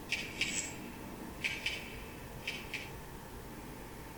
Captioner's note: clicking